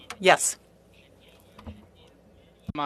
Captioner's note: speaking French